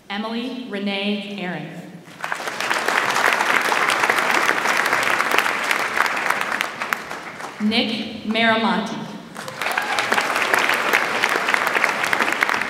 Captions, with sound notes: Emily Rene Aaron. (audience applauds) Nick Marilante. (audience applauds)